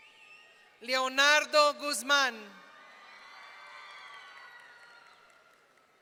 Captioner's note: audience cheering